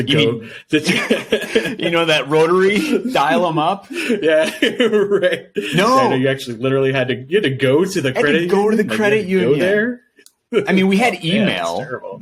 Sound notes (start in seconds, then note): 0.0 laughing